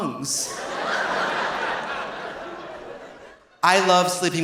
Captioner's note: audience laughing